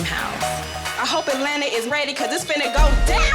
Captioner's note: more loud bitch yelling